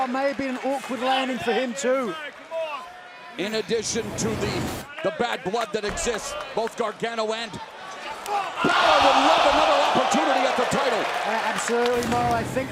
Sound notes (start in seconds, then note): 7.5 crowd chatter